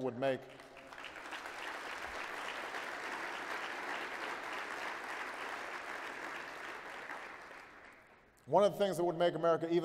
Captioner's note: applause